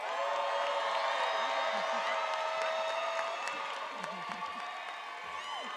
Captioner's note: attendees applauding and cheering